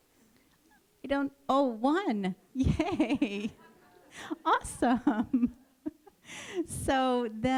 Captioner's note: laughter